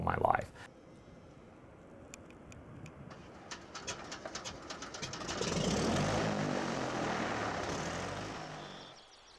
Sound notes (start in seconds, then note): 3.1 engine turning and starting; 8.5 birds singing, insects humming